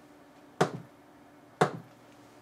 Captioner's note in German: Klopfen